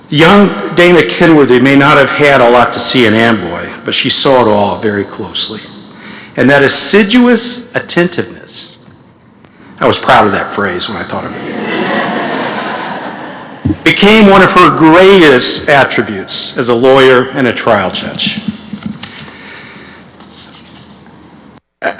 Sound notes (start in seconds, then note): 11.3 laughter